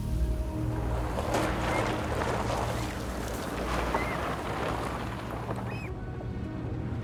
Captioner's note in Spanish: Sonido del carro